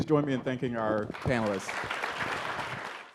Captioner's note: audience applauds